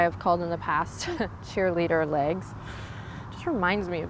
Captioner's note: chuckles